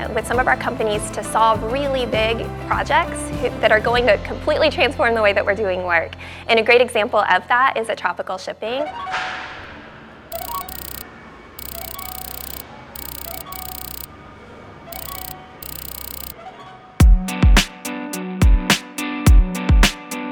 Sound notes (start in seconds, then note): 10.9 electronic revving; 17.2 upbeat music